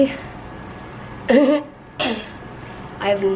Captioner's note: clears throat